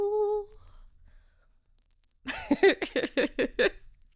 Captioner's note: laughing